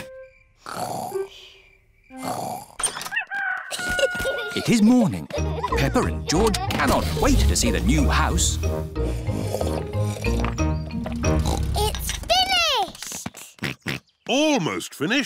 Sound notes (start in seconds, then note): 0.1 both snoring; 3.1 rooster crowing; 9.0 slurping; 9.1 oinks; 12.9 george oinks